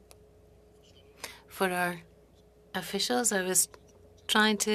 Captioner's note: speaking French